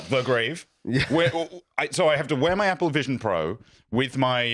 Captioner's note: stammers